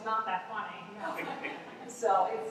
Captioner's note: laughter